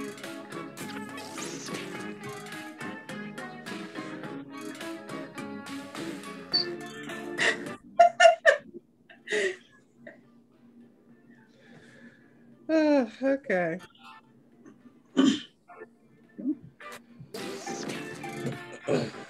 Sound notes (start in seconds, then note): 7.1 laughs